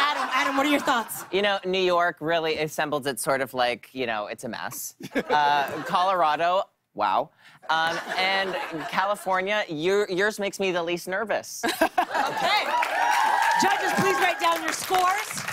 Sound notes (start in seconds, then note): 12.2 cheers and applause